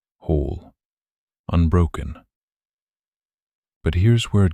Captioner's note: short pause